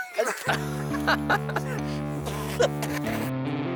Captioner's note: laughing